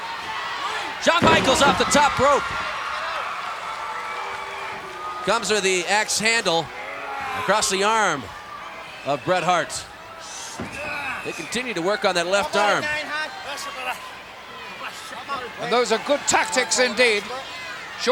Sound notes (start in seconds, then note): 2.4 audience cheering